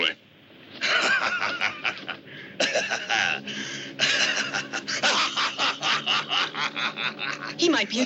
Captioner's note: laughing